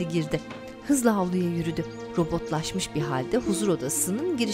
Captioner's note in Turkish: Kuş cıvıltısı sesi